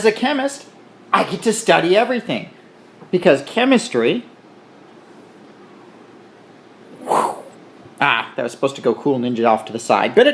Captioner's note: whooshing sound